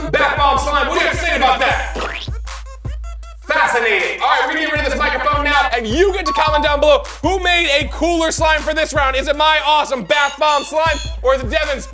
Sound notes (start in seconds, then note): 2.0 blurps